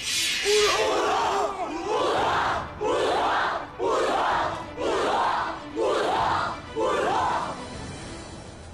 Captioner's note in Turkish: Kılıç sesleri; Bağırıyorlar